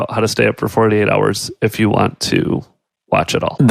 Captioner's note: none